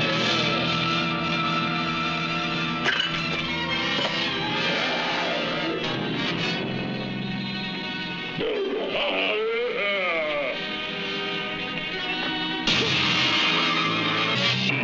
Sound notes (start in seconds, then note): 0.0 yelling; 0.2 dramatic instrumental music; 2.8 metal clattering